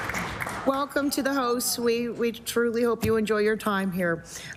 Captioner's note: applause